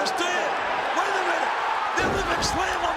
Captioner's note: crowd cheers